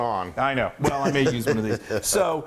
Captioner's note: laugh